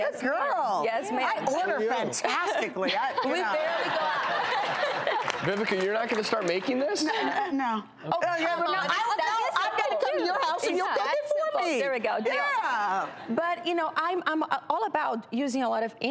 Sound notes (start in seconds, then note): 2.9 laughs